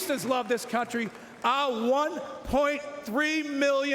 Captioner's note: cheering and Applause